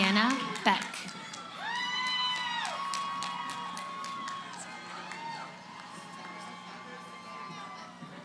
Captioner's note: cheering